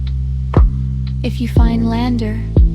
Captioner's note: long pause. The Geiger tick slows, almost like a heartbeat